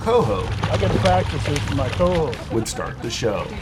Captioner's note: fish splashing